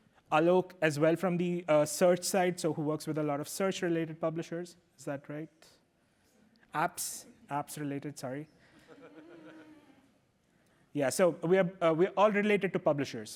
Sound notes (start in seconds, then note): 8.7 laughter